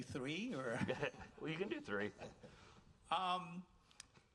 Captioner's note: chuckles